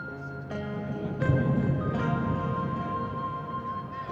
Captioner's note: thunder rumbling